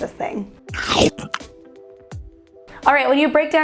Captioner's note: chomping